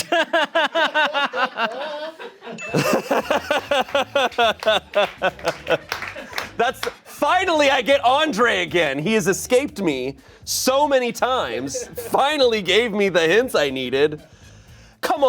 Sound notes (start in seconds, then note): 0.0 and audience members laughing; 2.5 chime dings; 2.8 laughing; 5.0 audience members clapping